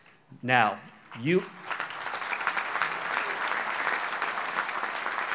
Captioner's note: audience applauds